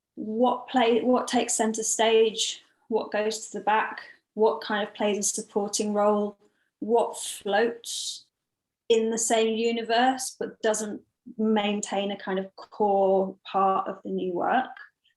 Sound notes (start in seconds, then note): none